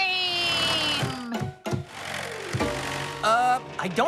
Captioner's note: ball Thumping